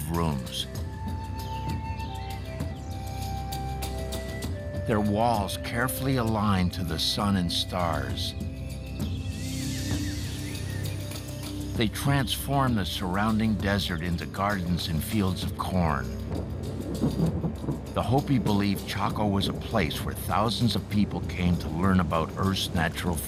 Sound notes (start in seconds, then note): 8.1 birds chirping; 16.2 thunder rumbles